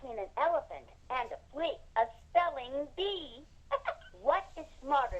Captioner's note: laughs